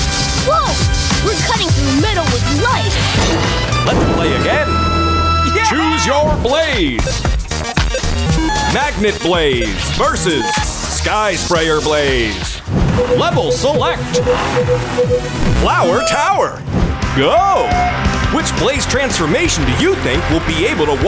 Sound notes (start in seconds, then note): 12.9 beeping